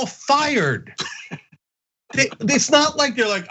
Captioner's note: laugh